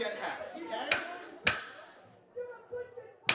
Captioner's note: coven cheering